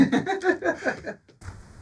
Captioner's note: laughing